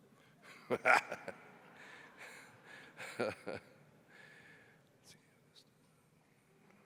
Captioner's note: laughs